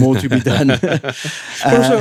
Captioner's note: laughing